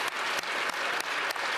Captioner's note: applause